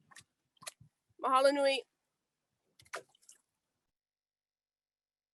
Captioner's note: speaking native language